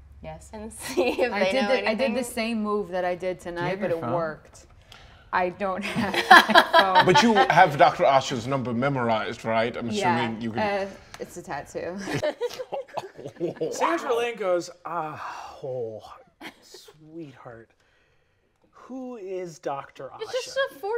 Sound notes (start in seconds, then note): 5.8 laughing; 11.9 laughing; 12.0 laughs; 15.1 sighs